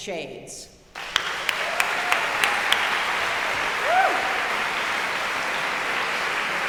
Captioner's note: audience cheering and applauding